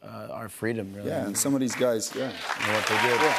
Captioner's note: cheers and applause